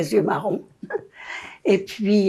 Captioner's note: laughing